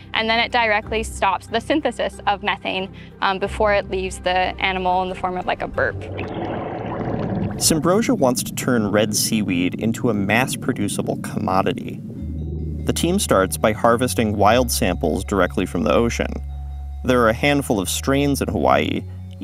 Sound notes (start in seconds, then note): 6.5 liquid bubbling